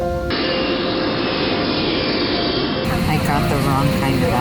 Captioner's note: engine roars